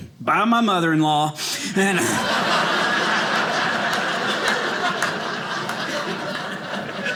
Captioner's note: audience laughing